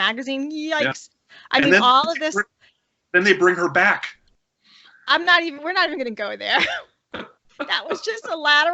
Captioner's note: laughter